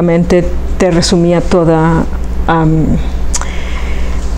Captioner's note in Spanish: suspira